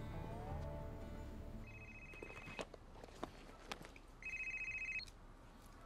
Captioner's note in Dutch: telefoon gaat